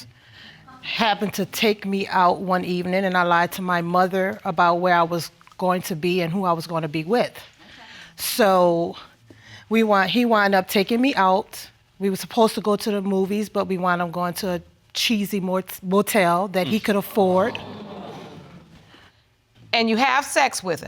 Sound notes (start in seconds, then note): 17.5 audience exclaiming